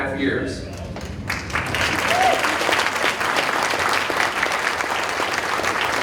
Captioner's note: audience applauding